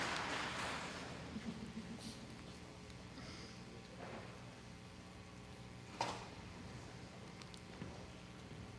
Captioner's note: audience applauding